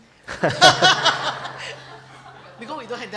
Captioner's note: laughter